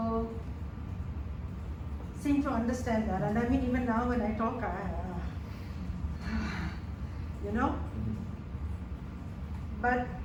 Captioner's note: sighs